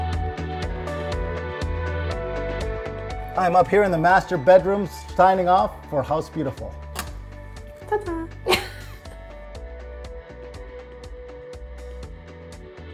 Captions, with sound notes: - I'm up here in the master bedroom, signing off for House Beautiful. - Ta-da. (chuckles slightly) (upbeat music)